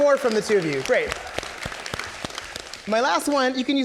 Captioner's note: audience clapping